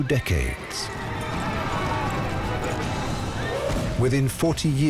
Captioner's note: soldiers shouting